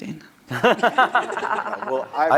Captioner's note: laughter